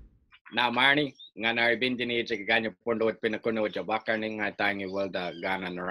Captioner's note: speaking in native language